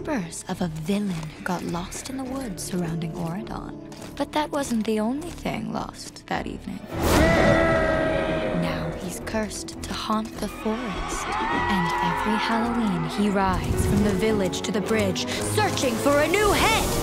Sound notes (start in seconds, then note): 7.0 screams